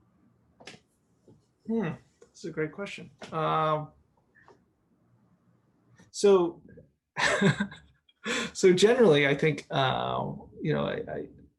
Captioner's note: chuckles